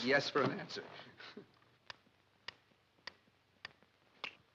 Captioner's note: metronome ticks